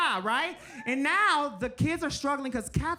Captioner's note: speaking Spanish; audience member cheering